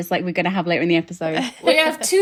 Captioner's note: laughing